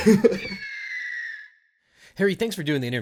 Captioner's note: laughs